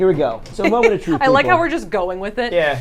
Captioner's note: giggles